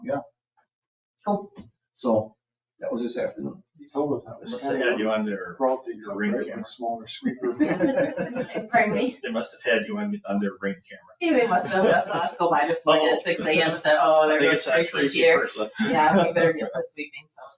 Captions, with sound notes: And yeah. Cool. So that was this afternoon. He told us that sweeper. (people chattering) (people laughing) They must have had you on their ring camera. (people chattering) Go by at 6:00 AM. (people chattering)